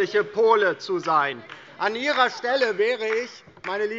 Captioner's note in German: Beifall DIE LINKE